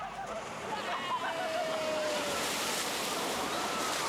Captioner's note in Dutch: lacht